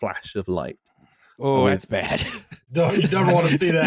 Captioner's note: laughter